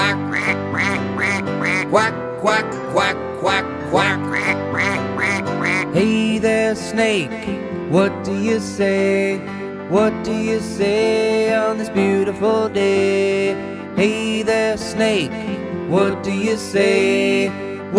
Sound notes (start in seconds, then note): 0.0 duck quacking